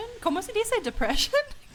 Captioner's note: speaking in foreign language